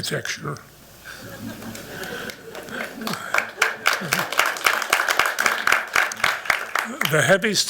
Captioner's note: applause